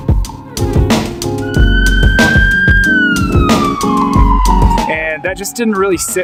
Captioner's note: ambulance siren blaring